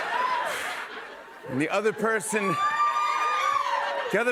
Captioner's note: cheers and applause